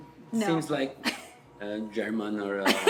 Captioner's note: laughs